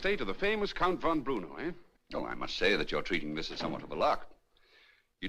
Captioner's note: door Closes